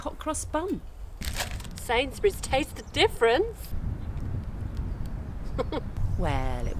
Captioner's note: giggle